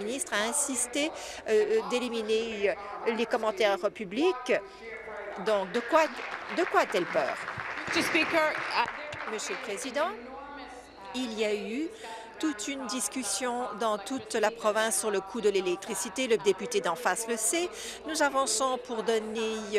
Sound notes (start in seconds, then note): 9.3 applause